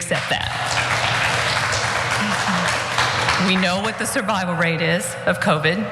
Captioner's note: applause